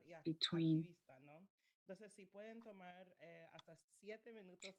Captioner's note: speaking spanish